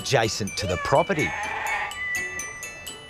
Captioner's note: bleats